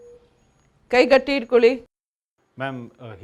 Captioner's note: speaking in Kannada